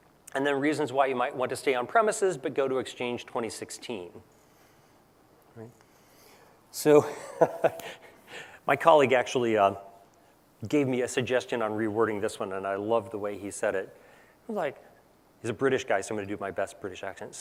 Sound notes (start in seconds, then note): 7.0 laugh